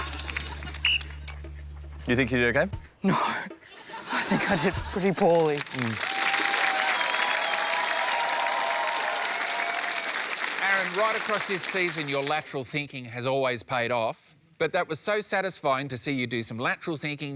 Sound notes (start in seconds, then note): 0.7 blows whistle; 4.9 cheering, applause